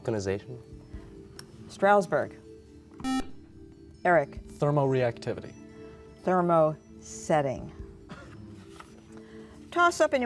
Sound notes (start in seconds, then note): 1.4 beeping